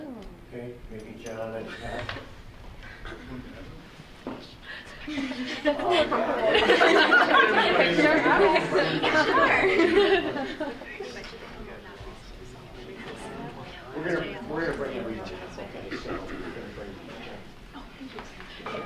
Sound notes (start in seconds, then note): 5.0 laughing; 9.0 murmuring